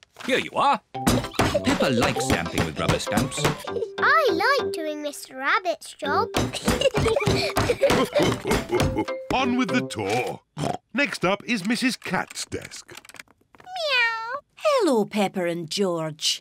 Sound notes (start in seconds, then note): 6.6 laughter; 10.5 oinks